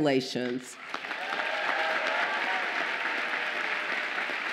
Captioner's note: audience applauding